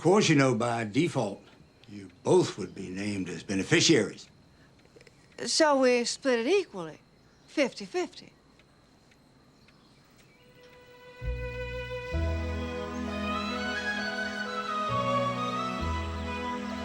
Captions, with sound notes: Of course, you know by default, you both would be named as beneficiaries. - So we split it equally 50/50? (gentle music) (birds chirping)